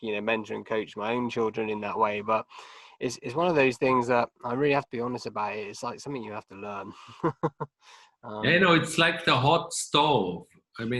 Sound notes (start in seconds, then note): 7.0 chuckling